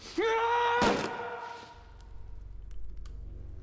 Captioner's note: yells